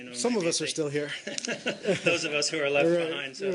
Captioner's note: laughter